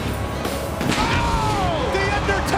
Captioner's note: pyrotechnics exploding